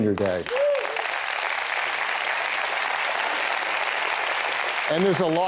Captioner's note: applause